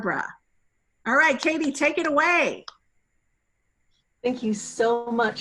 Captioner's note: clapping